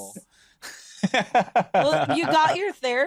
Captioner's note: laughs